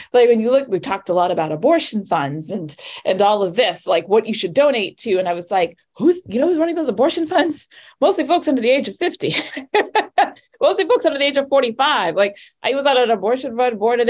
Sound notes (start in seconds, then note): 9.3 laughs